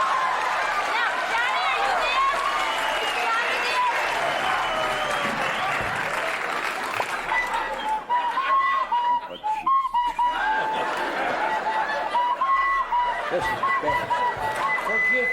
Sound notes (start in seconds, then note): 7.2 flute playing; 8.8 audience laughs